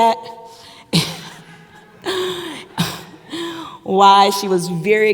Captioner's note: audience member laughs